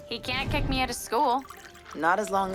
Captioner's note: spoon clatters